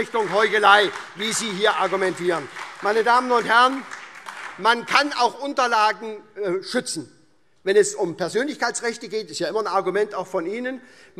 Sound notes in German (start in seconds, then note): 2.4 Beifall SPD und DIE LINKE